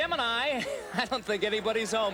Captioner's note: chuckckcklilingng